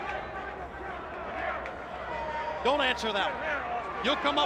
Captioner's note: crowd chatter